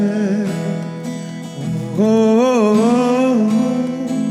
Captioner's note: humming